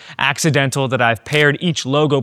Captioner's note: camera clicking